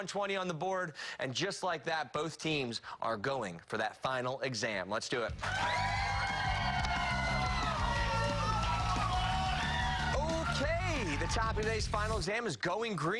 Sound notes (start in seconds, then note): 8.1 cheers and applause